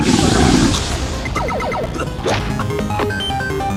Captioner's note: loud burp; coughing